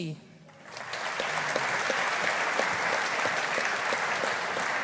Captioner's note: audience applauding